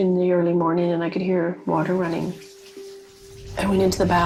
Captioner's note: water sloshing